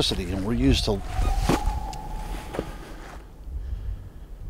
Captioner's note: unknown wail